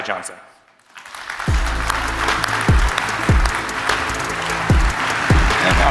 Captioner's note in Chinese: 掌聲